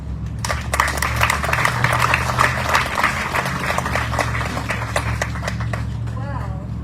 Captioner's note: audience cheering, applauding